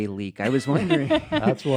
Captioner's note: laughing